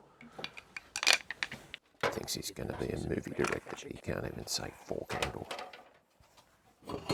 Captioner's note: muttering